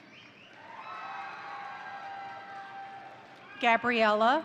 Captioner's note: crowd cheering; crowd applauding